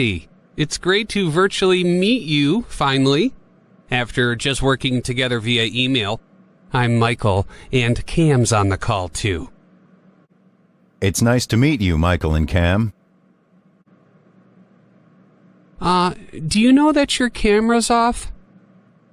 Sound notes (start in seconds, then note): none